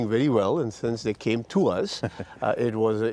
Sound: chuckling

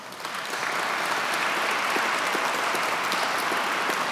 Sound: audience clapping

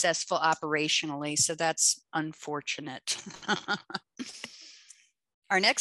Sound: laughs

